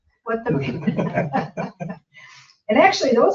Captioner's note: all laugh